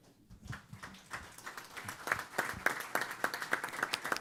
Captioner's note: applause